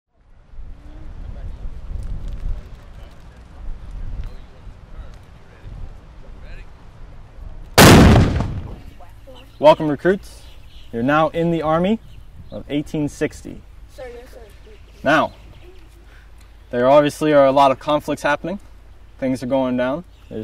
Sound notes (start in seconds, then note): 7.8 loud bang